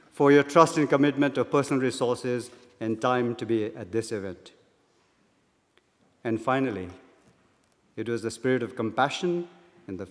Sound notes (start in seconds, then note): none